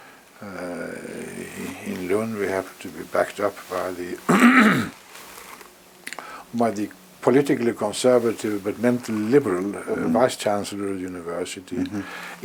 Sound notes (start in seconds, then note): 4.2 cough